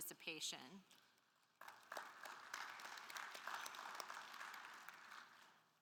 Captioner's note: attendees applauding